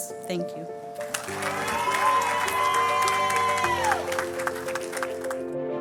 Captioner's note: crowd cheers and claps